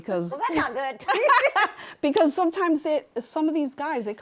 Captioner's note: laughs